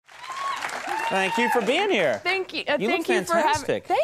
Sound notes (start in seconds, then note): 0.0 applause